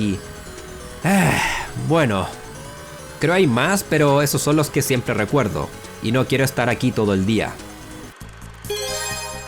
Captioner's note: sigh